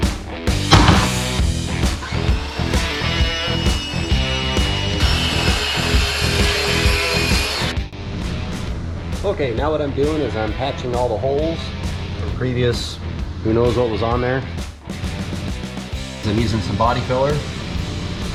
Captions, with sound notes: (saw guide slams onto the table) (saw cutting) ok now what i’m doing is patching all the holes from the previous who knows what was on there using some body filler